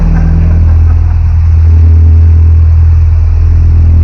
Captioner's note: chuckling